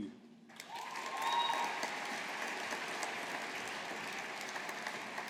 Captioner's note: audience applauding